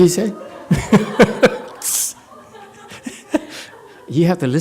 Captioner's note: laughs